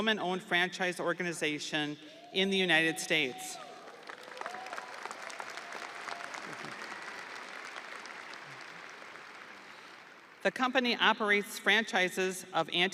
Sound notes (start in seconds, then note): 8.8 audience applauding; 8.8 audience cheering